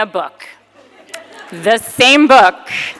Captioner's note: audience laughing